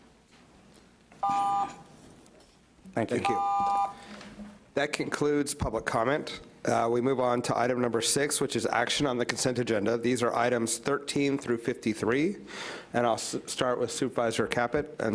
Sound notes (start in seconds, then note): 1.2 timer beeps